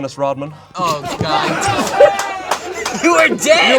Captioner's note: group laughs